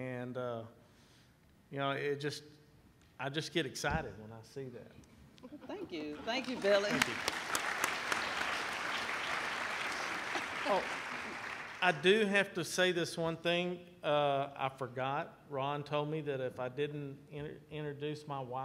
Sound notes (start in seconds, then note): 7.7 applauding